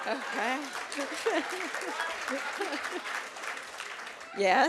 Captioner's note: applause